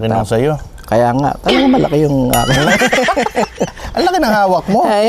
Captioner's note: laughs